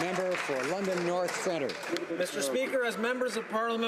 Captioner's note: some Applause